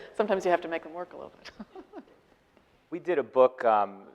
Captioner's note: laughing